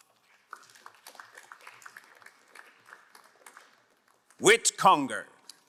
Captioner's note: crowd applauding